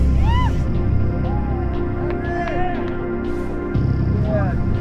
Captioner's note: friends cheering